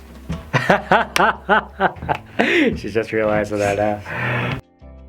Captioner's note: laughs